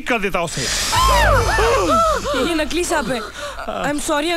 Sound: gasps

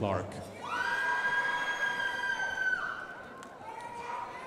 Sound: crowd applauding

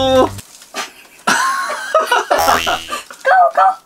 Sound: giggle

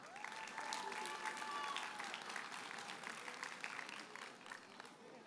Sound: audience cheers and applauds

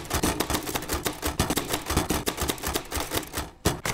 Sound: typewriter clacking

